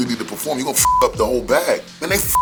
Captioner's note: beep